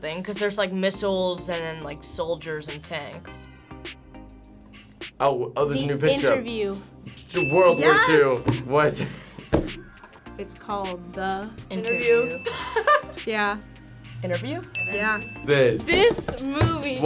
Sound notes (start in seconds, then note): 7.3 bell chimes; 11.8 bell chimes; 12.4 laughs